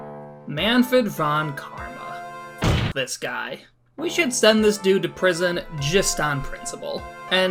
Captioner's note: desk slam sfx